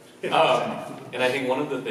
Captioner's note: laughs